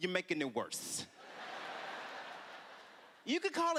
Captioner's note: laughter